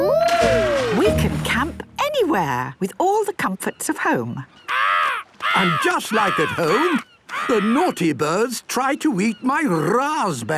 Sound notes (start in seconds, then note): 4.5 seagull cries